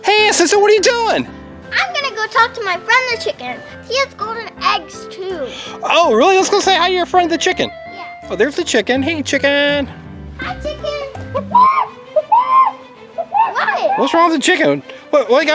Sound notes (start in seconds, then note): 11.4 clucks